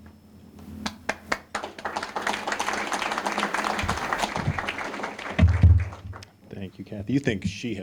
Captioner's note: applause